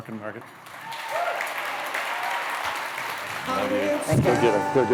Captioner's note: cheering, applause